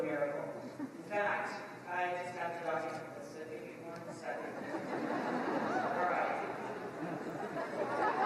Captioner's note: laughter